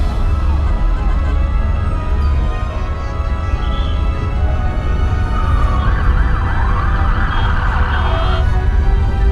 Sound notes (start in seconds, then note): 0.0 honking / sirens; 0.0 chatter